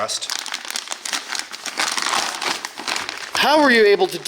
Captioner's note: crinkling